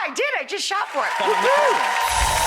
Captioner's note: cheers; clapping